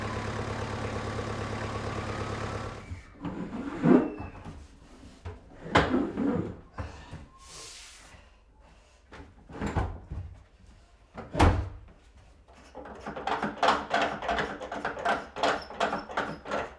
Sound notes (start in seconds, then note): 3.2 cabinet scraping; 11.3 cabinet thudding; 13.2 screw driver squeaking